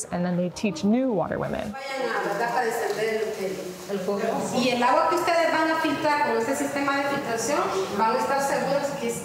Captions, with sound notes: and then they teach new Water Women. (speaking foreign language)